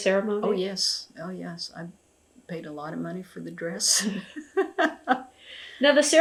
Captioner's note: laughs